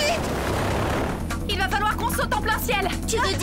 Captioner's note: airplane sound